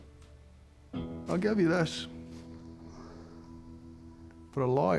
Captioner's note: scottish accent